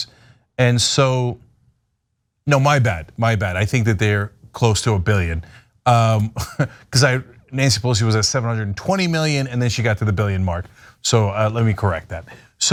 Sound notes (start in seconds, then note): 6.3 laugh